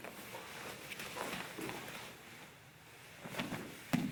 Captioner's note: soft shuffling